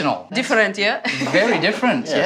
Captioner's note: laughs